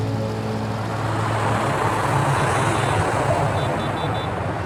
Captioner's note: aeroplane whooshing